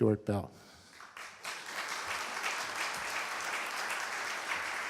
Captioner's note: applause